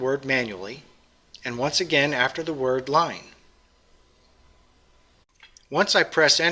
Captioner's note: pause